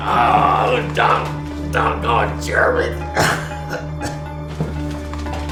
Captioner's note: speaking faintly; ominous music